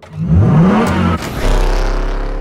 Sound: engine revving; engine roaring

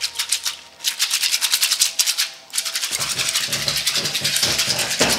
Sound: beads rattling

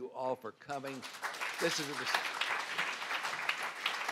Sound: applause

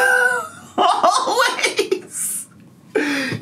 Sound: laughs

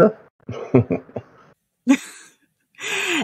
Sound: chuckles

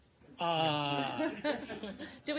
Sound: laughter

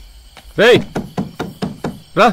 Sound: knocking

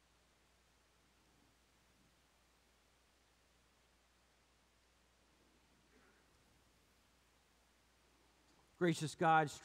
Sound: brief moment of silence for personal prayer

